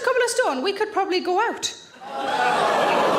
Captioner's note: audience exclaiming